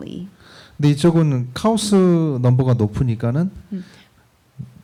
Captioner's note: speaking korean